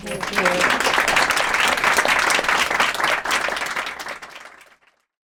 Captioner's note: applause